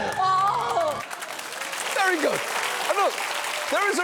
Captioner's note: audience applauds